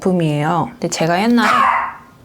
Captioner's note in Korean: 개 짖는 소리